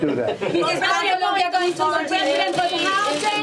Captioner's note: laughter